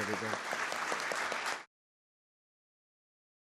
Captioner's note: applause